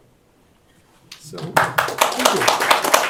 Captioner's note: applause